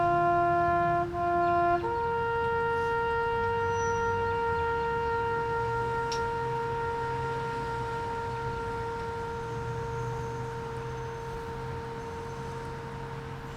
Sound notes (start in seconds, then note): none